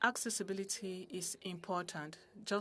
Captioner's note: speaking French